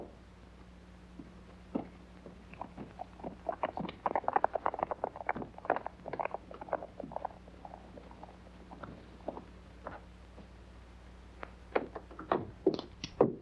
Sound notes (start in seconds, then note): 2.9 hooves trotting away